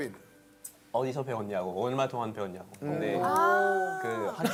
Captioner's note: French